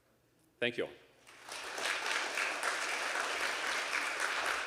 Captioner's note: audience applauding